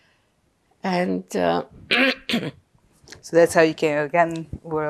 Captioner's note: clears throat